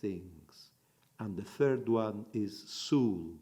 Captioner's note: in Hebrew